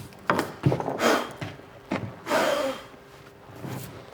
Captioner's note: blowing